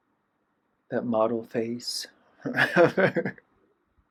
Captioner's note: laughter